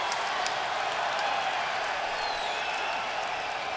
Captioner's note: crowd cheering